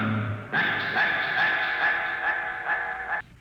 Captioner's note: dog barking